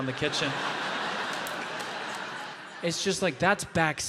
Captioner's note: audience laughing